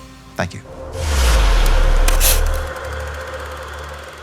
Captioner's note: whooshing